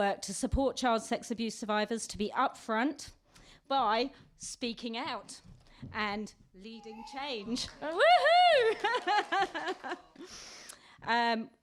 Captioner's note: laughter